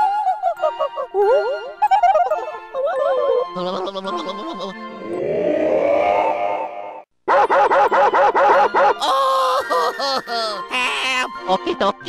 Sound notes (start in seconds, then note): 3.5 shivering; 5.6 melody gibberish; 7.3 barking